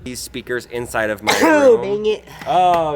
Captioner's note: sneezes